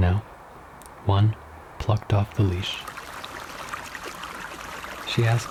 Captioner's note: water splashing